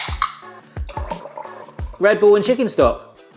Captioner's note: ring pull clicks; Red Bull glugging